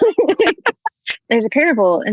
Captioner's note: laugh